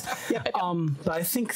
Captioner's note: group laughing